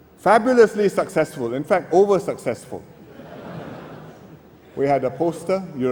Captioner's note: laughter